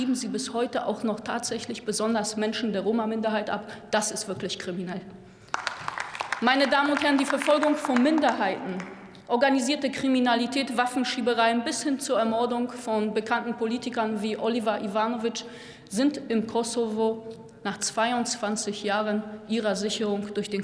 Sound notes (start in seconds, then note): 5.4 Applause from DIE LINKE